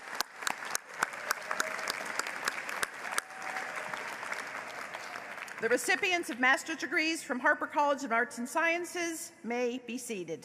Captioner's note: applause